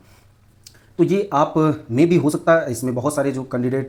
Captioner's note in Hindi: नाक से की जाने वाली आवाज़